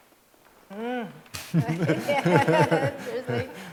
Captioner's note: laughter